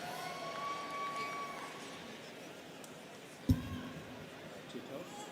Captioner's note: students cheering